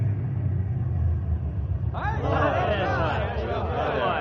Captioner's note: crowd chattering